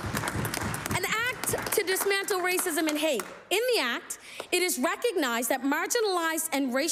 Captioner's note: applause